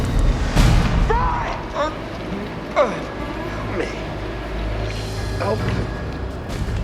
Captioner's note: grunting